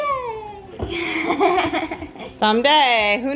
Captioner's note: laughing